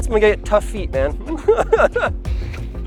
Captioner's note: laughter